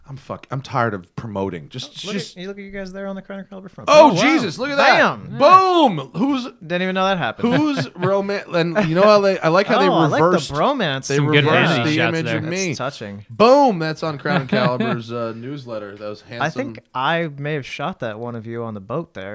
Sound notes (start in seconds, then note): 7.4 laughter; 14.2 laughter